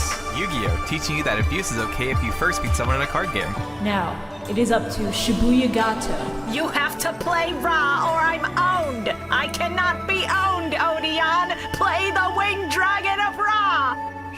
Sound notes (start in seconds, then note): 6.4 Marik voice